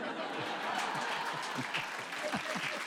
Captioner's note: laughter